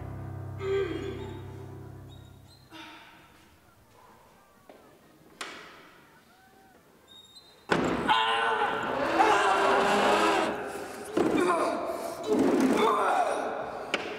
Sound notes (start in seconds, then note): 0.9 Doe grunts; 8.6 groans heavily